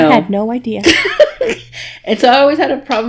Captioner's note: laughing